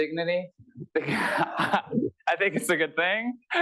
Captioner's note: laughter